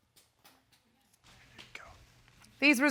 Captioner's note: whispers